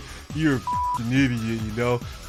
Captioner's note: beep